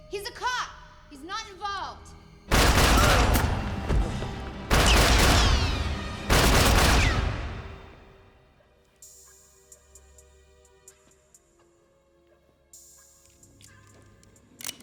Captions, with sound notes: - He's a cop, he's not involved. (gunshots fire) (gunshots fire) (tense music)